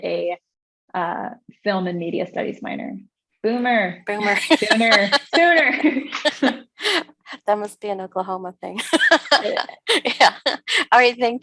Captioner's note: laughter